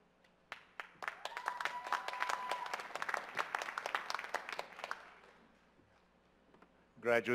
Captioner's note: applause